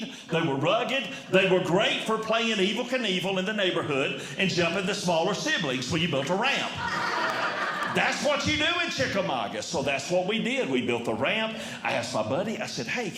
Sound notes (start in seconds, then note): 6.7 audience Laughing